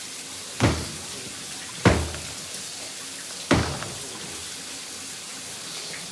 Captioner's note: hand slamming; water splashing